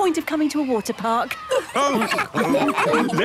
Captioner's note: all laughing